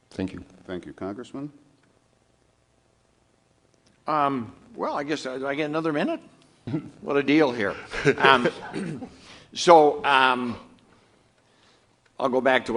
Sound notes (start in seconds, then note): 7.9 off camera laughter